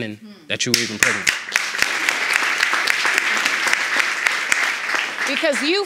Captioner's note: audience applauding